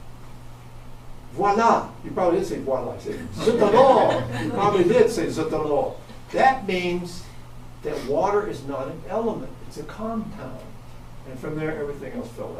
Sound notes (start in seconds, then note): 3.1 audience laughs